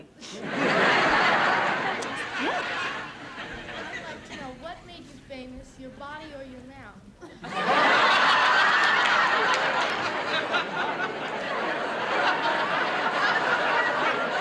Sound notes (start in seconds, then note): 0.2 laughter; 7.2 laughter